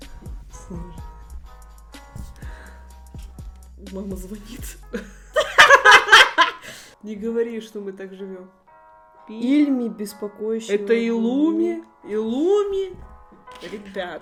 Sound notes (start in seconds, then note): 5.3 _hahaha_